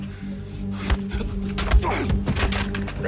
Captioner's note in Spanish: Golpes